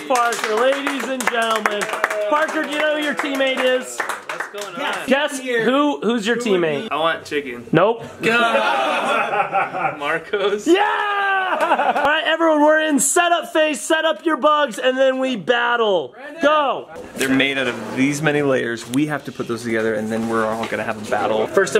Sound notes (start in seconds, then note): 8.3 laughing; 11.5 yelling